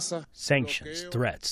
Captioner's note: through translator